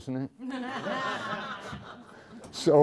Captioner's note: laughter